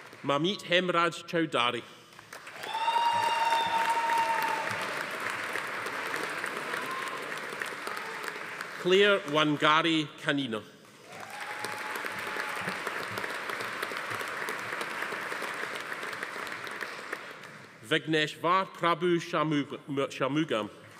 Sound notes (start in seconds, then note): 2.2 audience applauding; 2.4 attendees cheering; 11.0 audience applauding; 11.0 attendee cheering